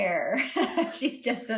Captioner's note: laughing